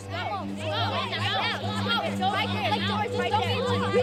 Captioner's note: kids taunting